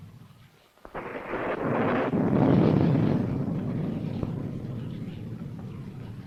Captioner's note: rain pattering; thunder rumbling